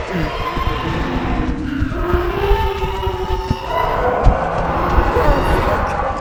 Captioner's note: heavy breathing; screech